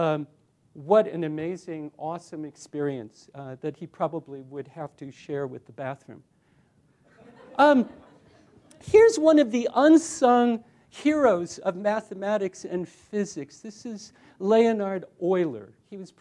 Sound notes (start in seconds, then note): 7.0 laughter